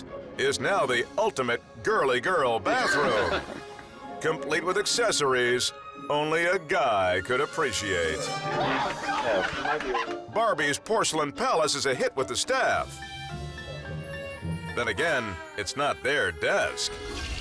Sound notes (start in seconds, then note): 2.7 person laughs; 12.7 suspenseful music